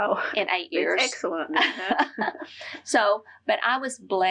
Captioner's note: laughter